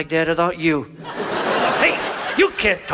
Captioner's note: audience laughs